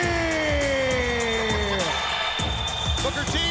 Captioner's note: crowd cheering